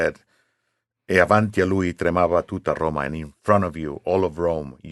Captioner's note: speaking Italian